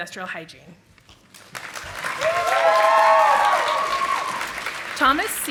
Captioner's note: audience applauding